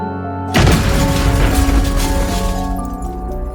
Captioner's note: soft piano music; planet crashing; soft piano music